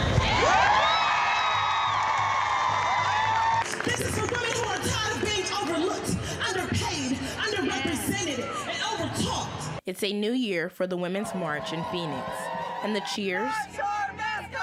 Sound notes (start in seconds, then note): 5.5 cheering and shouting